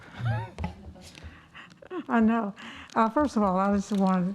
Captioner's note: laughs